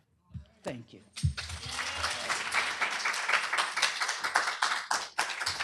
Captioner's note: applause, cheering